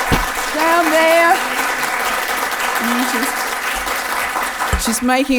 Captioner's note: audience applause can be heard